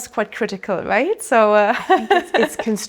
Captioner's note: laughs